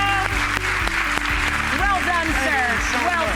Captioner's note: clapping